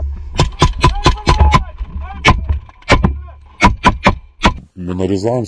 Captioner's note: Russian